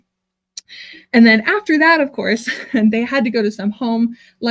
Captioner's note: chuckles